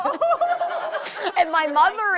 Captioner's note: both laughs